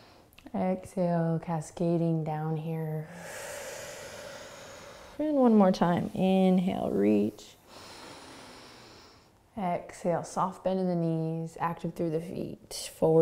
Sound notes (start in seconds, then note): 0.0 inhaling; 3.0 exhaling; 7.6 inhaling